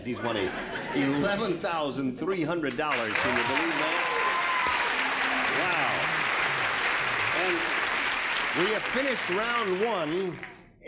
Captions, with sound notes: He's won $11,300. (laughter) can you believe that? (applause) Wow. And we have finished round 1,